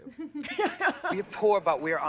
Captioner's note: both laughs